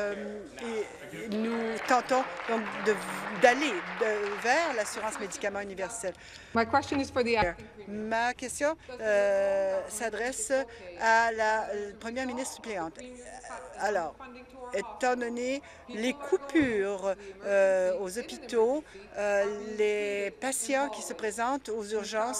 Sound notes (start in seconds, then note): 5.4 applause; 7.3 speaking in French